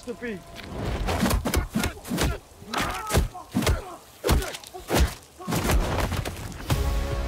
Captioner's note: hard pummeling